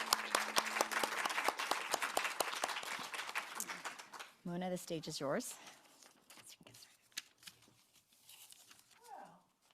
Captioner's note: applause